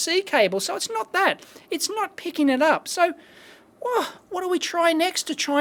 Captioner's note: exasperated sigh